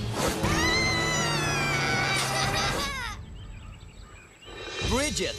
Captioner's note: screaming